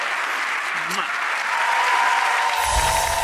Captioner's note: applauding